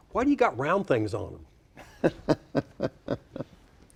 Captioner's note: laughing